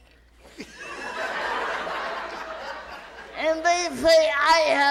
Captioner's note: audience laughs